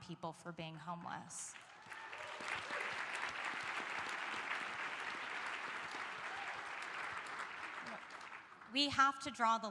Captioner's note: applause